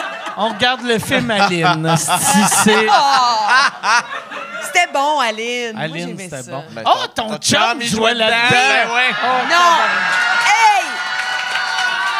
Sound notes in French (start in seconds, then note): 2.0 rires; 10.4 rires